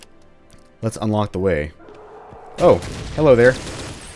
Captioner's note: Destroyer saying "Hello"... loudly; M16 autofire